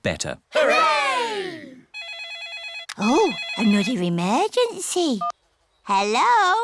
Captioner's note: phone rings